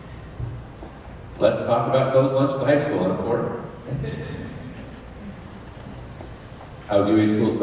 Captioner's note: laughter